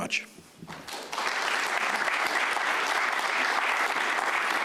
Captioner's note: audience applauds